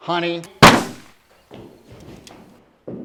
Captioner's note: gun fires